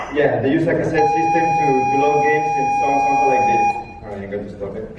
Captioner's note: beeping sound